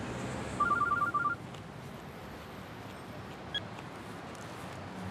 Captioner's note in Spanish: suena el celular